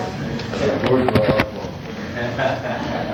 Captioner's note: laughter